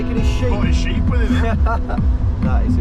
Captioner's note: laughing